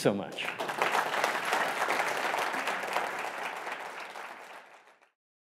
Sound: applause

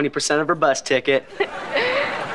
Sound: laughing

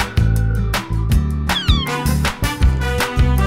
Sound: cat meows

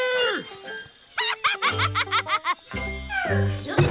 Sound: laughing

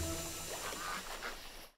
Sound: ducks quacking

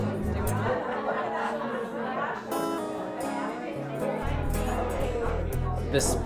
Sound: chatter

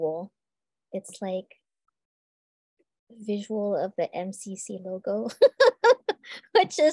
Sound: laughs

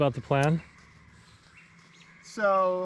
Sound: birdsong

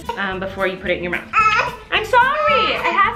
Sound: baby crying

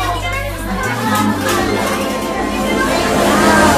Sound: chattering continues

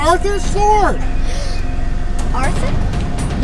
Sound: gasp

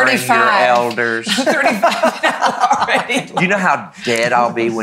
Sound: laughs

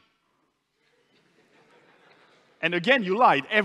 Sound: laughter in the audience

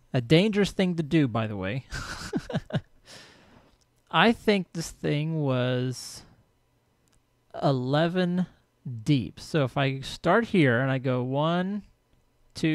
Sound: laughs

